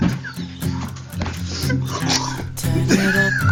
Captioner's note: laughing